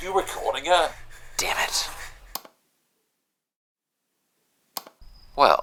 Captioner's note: click of recording stopping, and then starting